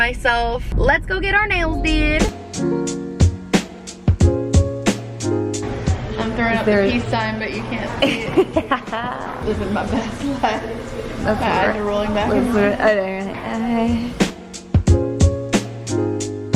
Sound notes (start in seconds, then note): 1.6 gentle music; 8.5 laughs; 13.1 gentle music